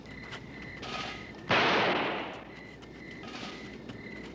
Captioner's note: gun firing